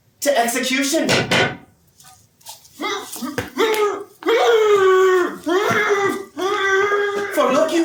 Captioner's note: stick pounds twice, muffled sounds of struggle